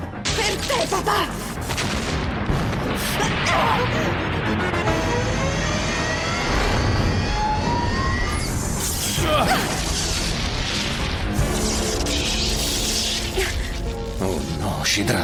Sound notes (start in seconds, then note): 1.6 explosion